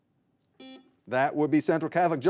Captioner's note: buzzer buzzing